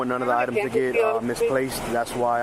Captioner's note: radio chatter